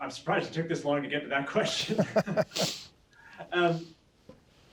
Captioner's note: laughing